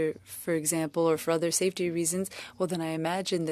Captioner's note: speaking French